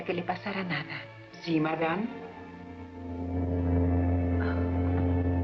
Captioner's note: train Whistle Blowing